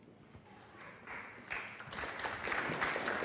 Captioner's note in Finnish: Aplodeja